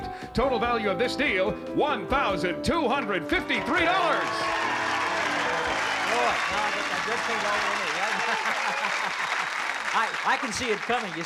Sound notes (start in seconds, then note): 4.0 cheering; 8.8 laughs